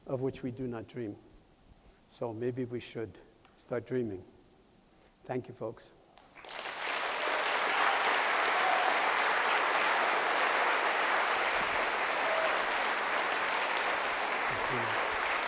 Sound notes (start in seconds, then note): 6.2 applause